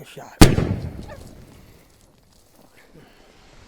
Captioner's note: gunshot